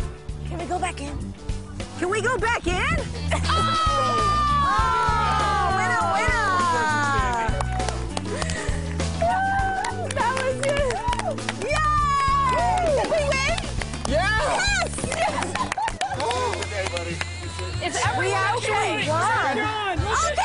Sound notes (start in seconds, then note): 15.0 laughter; 16.5 applause